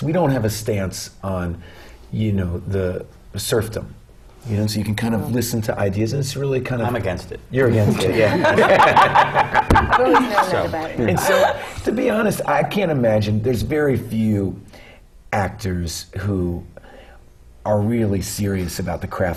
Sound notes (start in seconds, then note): 7.7 laughter